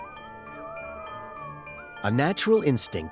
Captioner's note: wolves howling